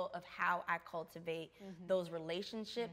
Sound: none

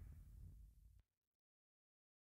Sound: silence

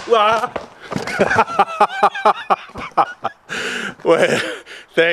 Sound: laughing

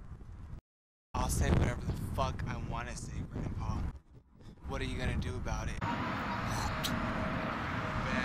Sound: spits

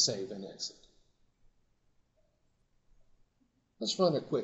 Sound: silence

